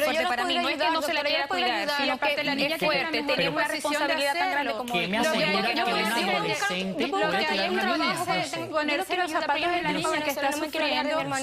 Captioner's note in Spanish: Hablan al unísono